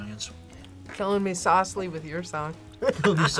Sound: laughs

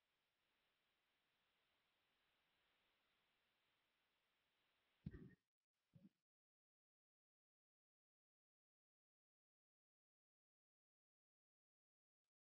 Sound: silence 00:19:21 - 00:19:40

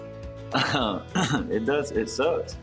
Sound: chuckle

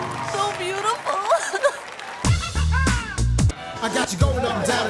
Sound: sobbing

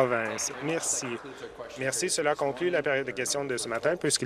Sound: some Applause

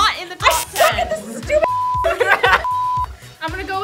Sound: beep

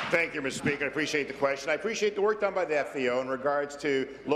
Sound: applause

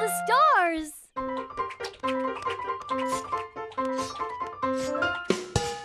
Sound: gasping

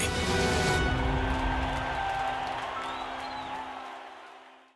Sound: crowd cheers

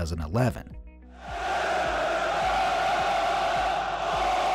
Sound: crowd cheering

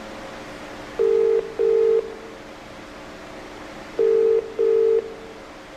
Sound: ringing tone

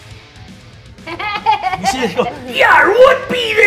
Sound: laughing

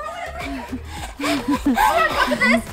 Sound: pants

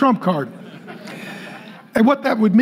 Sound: congregation laughing

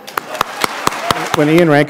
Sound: applause

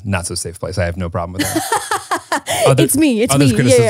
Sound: laughs

